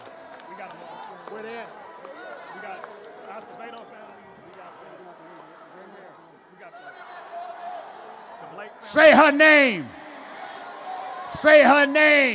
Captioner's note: applause